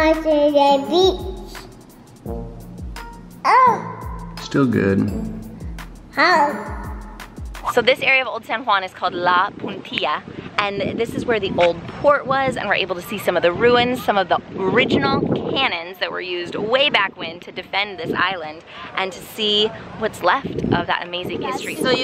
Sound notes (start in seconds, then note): 0.3 babbles; 3.5 exclaims